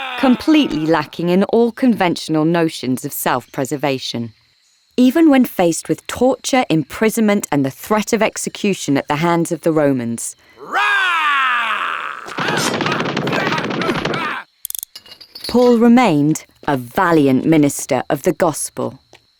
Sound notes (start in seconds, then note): 10.6 Paul roaring; 12.5 Paul yelling; 12.5 punches landing